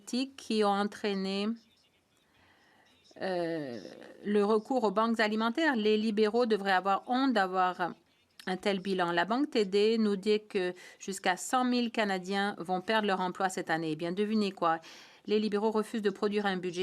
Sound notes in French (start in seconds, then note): 1.0 voix de l'interprète